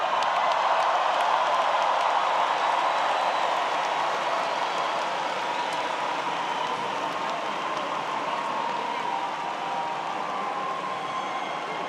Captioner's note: applause